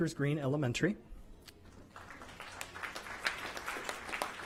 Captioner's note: applause